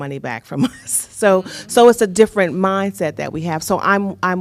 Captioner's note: laughter